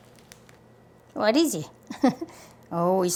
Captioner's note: laughs